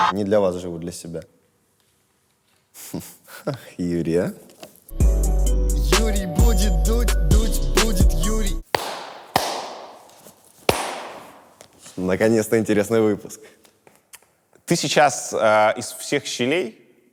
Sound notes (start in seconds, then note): 2.7 chuckles; 4.9 title card music